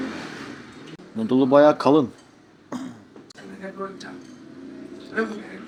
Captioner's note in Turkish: boğazını temizler